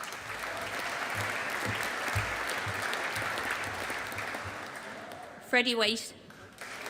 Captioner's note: audience applauding